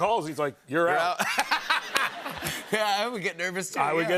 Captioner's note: laughter